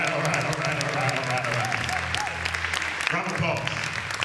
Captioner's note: applause